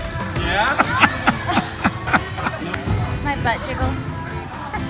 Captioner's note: husband laughing